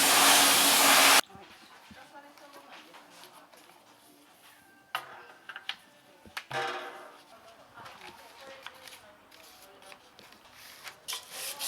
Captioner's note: sanding